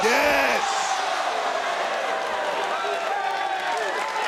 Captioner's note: crowd cheers